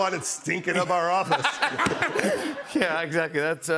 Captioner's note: laughter